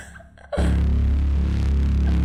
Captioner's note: gasp